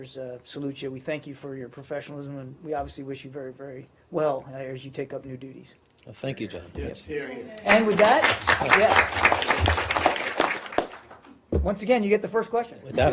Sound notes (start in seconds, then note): 9.2 applause